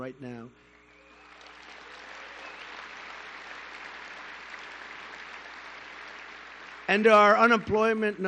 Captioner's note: applause